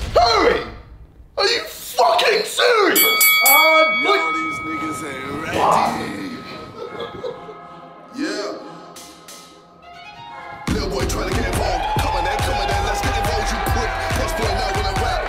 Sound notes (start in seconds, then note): 2.9 fighting bell rings; 5.7 grunts; 6.9 laughing; 12.5 crowd cheering